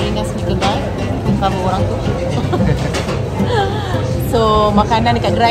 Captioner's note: laugh